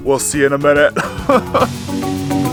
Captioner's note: laughing awkwardly; upbeat rhythmic music continues